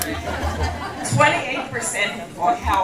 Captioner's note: laughter